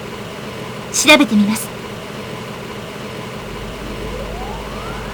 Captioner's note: rain